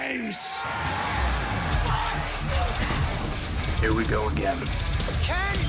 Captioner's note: crowd cheering